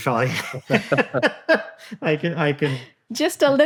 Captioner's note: all laughing